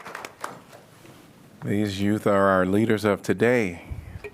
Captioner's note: applause